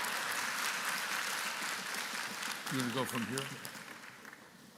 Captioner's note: applause